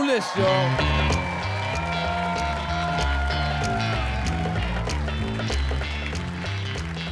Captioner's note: audience cheering; upbeat jazz music